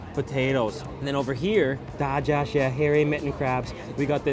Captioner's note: foreign language